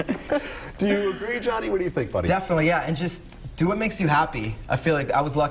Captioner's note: laughter